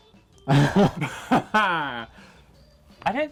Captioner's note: laughs